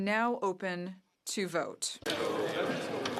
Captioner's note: speaking french